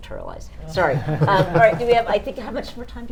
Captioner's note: panel laughing